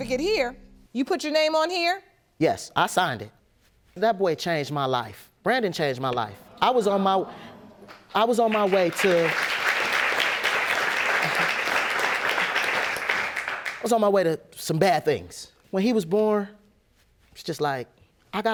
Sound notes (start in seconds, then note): 7.8 audience applauding